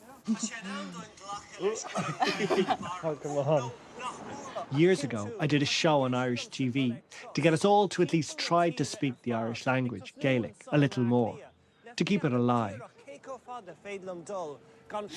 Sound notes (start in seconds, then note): 2.4 laughter, indistinct chatter; 4.9 voice-over; 13.1 speaking Gaelic